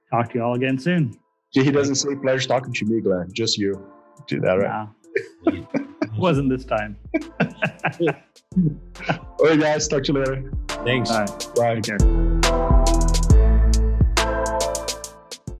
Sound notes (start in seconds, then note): 7.0 laughs; 12.6 upbeat electronic music